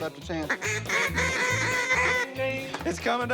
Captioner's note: duck calls